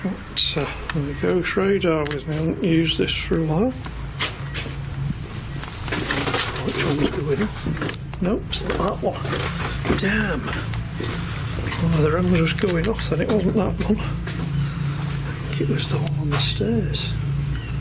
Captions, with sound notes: The ghost radar, haven't used this for awhile. (loud beep) Damn, it was just going off, I think it was the one on the stairs.